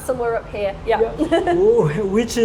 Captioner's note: laughing